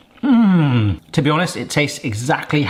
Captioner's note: person sighing